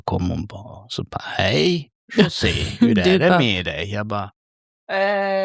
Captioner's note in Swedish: skratt